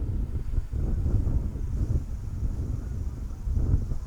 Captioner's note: wind howling